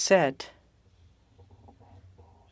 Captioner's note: speaking french